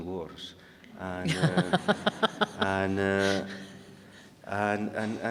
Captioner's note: audience laughing